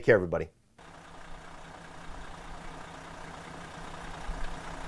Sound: engine revving

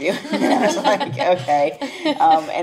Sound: laughs

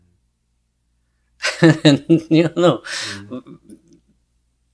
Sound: laughs

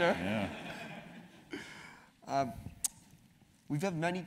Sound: laugh

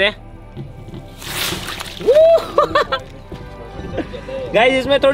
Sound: cheering

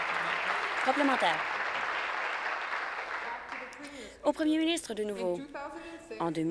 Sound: applause

